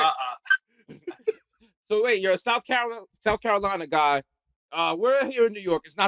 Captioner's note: laughing